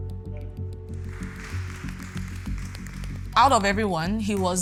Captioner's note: clapping